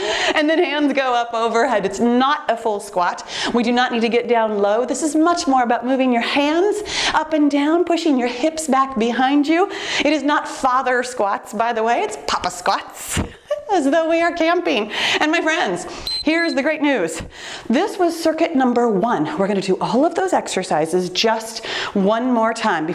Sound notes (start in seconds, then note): 13.4 laughs; 16.0 timer beeps